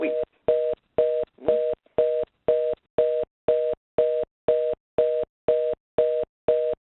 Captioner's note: busy signal